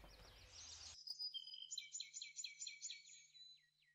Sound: birds chirping

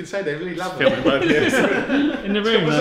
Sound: all laugh

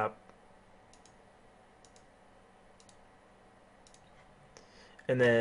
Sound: keyboarding

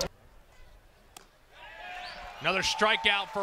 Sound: ball hitting glove

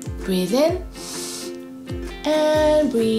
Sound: breathes in deeply

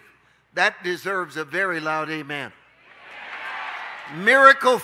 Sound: audience shouting

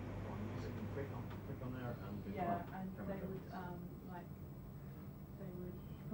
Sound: background conversations

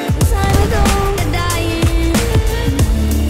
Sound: massive explosion

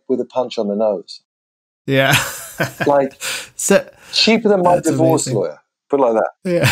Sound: laughter

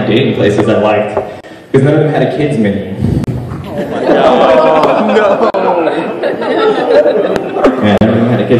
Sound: shrewd Laughter

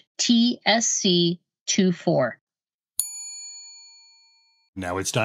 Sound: bell dings

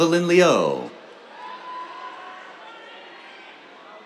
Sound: cheers

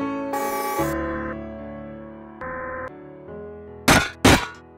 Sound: whirring; stomping

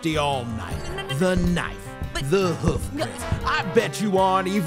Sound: stutters

